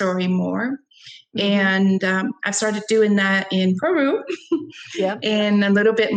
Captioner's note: chuckles